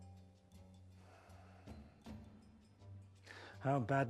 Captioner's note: sighs